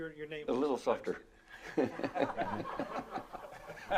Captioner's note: laughing